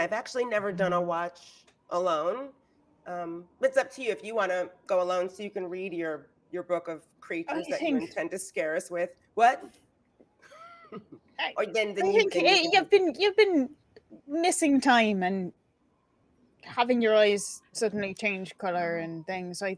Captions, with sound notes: I've actually never done a watch alone. It's up to you if you wanna go alone so you can read your book of creatures that you intend to scare us with, what? (laughing) - You've been missing time and having your eyes suddenly change color and things.